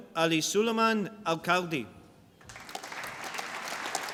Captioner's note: applause